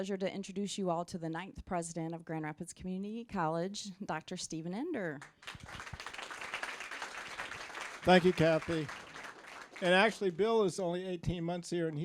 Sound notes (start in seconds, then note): 5.2 applause